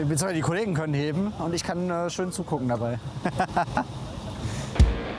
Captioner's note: laughs